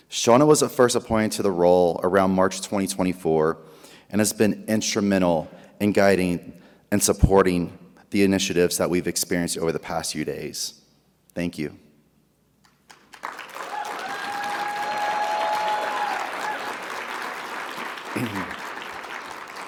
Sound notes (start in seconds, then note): 12.8 audience applauding; 13.2 audience cheering